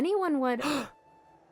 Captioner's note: gasp